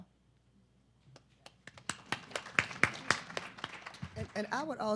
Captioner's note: audience clapping